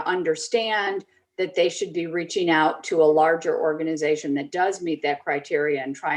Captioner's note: none